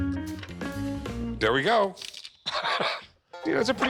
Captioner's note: laughs